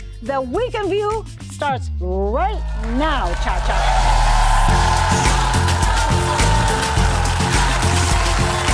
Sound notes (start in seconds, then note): 2.6 audience cheering; 4.9 upbeat music